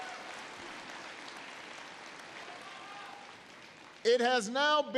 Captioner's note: applause